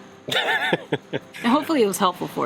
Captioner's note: laughs